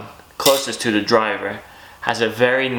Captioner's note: metallic clunking